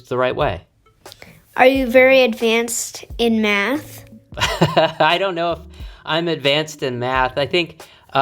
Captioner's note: laughs